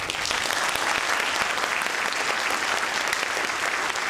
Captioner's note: audience applauding